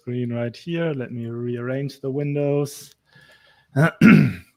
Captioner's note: clears throat